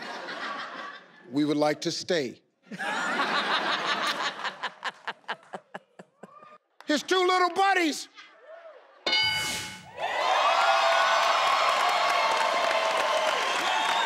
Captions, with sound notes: We would like to stay. (crowd laughs) His two little buddies! (board dings) (crowd cheers)